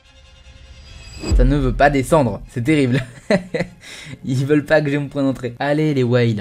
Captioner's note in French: rires